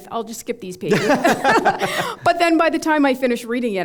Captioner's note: laughter